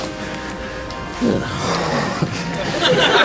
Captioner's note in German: Seufzer